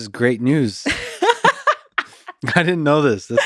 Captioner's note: laughing